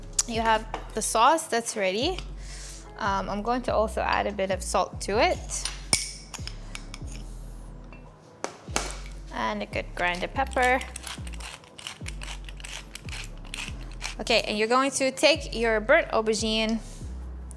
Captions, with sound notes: you have the sauce that's ready. I'm going to also add a bit of salt to it. (saucer clinks) And a good grind of pepper. (grinder rattling) Okay, and you're going to take your burnt aubergine